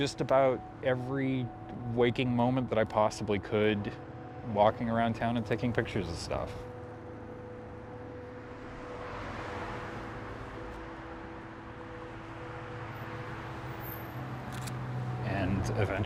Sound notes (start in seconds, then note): 7.8 cars whirring; 14.5 camera clicks